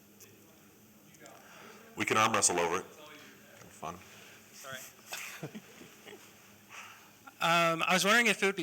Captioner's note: laughter